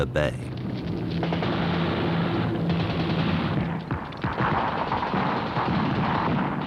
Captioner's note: explosions; gunfire